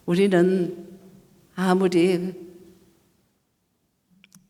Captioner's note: speaking foreign language